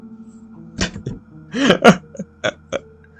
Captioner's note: laugh